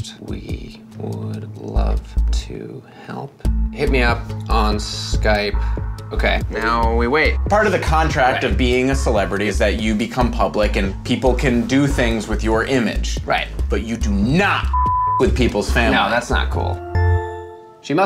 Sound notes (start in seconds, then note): 14.7 beep